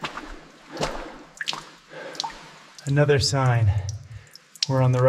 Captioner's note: water splashing